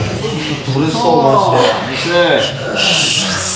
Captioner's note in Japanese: 荒い息の音